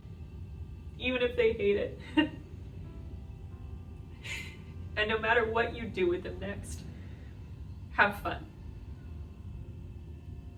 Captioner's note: laugh